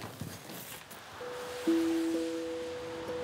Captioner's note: pensive sounds